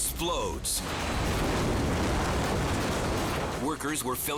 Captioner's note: explosion booming